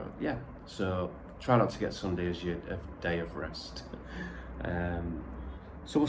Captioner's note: chuckle